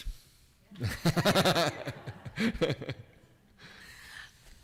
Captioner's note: laughing